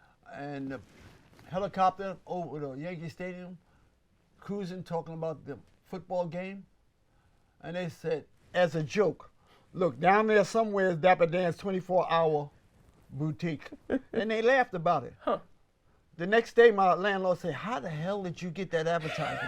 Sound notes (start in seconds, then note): 13.5 laughs